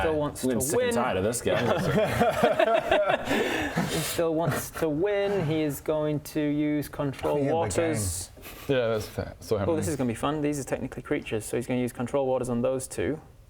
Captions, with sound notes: - still wants to win - I'm getting sick and tired of this guy *laughs* he still wants to win he is going to use control water Oh yeah, the game yeah that's still happening Oh this is gonna be fun these are technically creatures so he's gonna use control waters on those two